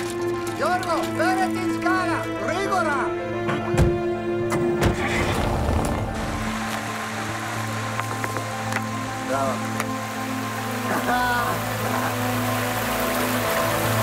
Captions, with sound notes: George fetch the ladder quickly! Bravo! [Chuckles]